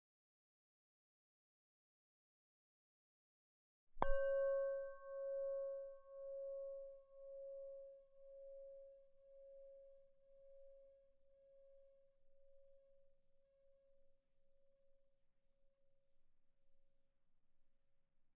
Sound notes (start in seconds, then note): 4.0 meditation Bell